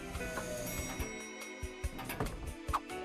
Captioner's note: elevator bell dings